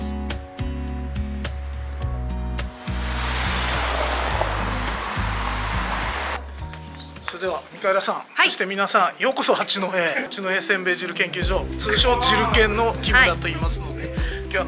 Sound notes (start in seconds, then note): 0.0 lighthearted music; 7.5 speaking in foreign language